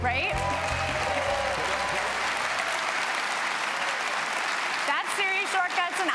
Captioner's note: applause